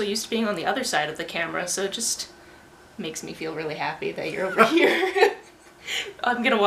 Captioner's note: laughter